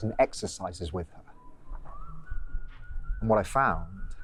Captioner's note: man whistling